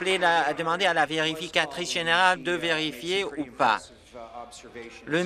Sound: some Applause

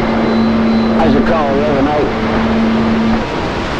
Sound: tones

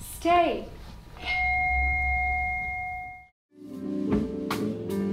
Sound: beeping; guitar music

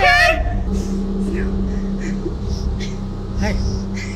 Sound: hyperventilating; giggling nervously

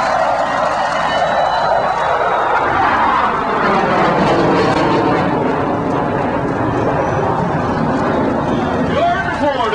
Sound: crowd cheering; sound of jet passing overhead

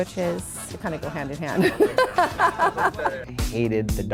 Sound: laughs

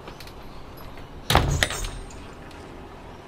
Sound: door close

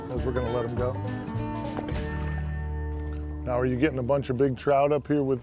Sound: splashing

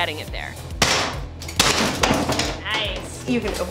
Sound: hammer smashing

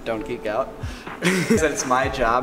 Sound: laugh

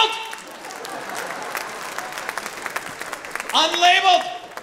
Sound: audience laughing

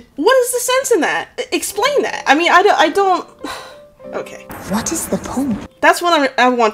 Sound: sigh

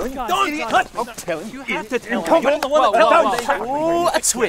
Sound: arguing

